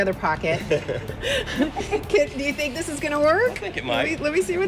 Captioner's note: laughter